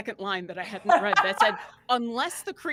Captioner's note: laughing